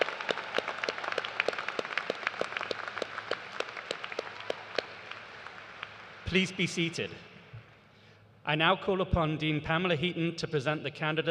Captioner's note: applause